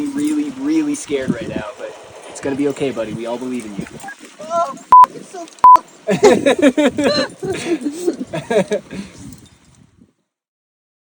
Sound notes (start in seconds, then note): 4.4 continues swearing